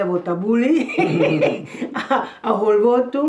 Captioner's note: chuckles